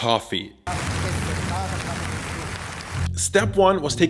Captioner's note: Round of Soviet applause